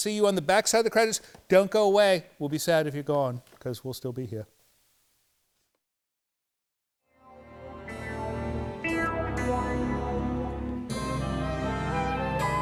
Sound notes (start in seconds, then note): none